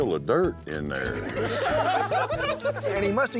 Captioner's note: laughter